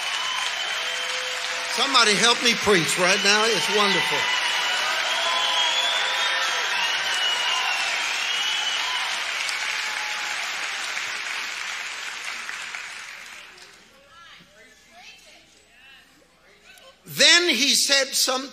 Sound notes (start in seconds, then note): 5.0 audience cheering